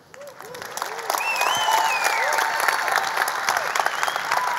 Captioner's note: audience applause